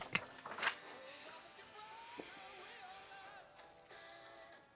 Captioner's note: radio playing